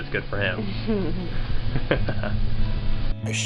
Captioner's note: chuckling